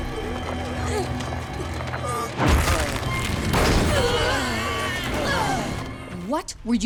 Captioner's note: grunting